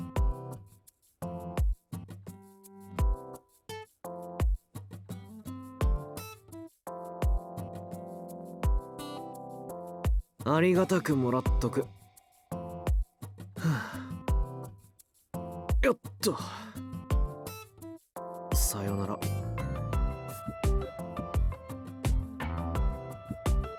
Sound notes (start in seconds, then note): 13.6 sigh